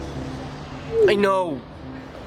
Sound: message sound effect playing

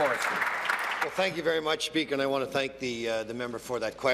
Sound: applause

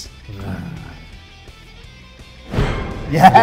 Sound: Ant growling; dramatic music

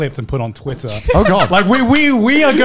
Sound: laughing

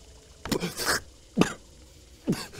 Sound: splutters; cough

